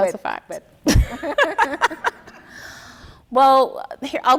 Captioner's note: laughing